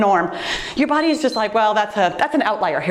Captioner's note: timer beeps